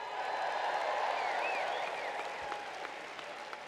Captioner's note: cheers and applause